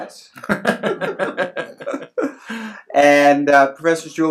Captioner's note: laughs